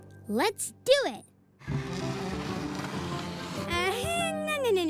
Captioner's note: table scraping